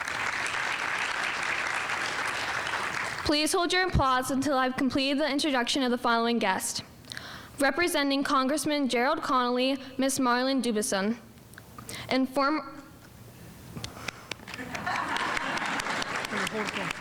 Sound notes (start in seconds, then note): 0.0 audience applauding; 14.1 speaker clapping; 14.5 audience laughing